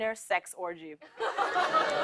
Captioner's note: laughter